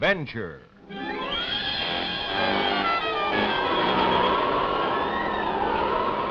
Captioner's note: wind howling; dramatic orchestra music